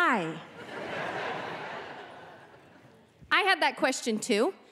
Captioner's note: audience laughing